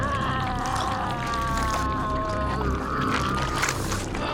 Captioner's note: wolf groaning